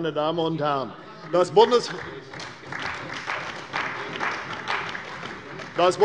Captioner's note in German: Beifall bei der CDU